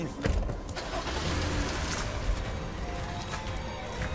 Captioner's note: engine starts